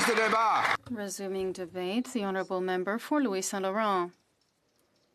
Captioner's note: some applause